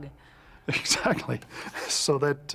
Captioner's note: chuckles